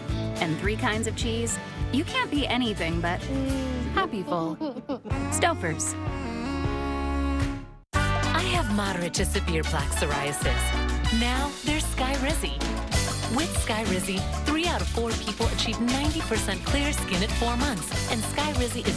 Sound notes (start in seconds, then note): 4.4 mmmm - kids giggle